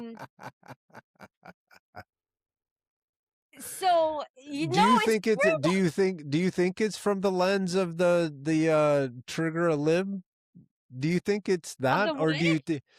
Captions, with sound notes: (Laughter) So, you know, I think-- Do you think it's-- do you think it's from the lens of the-- the "trigger a lib?" Do you think it's that? I don't believe it.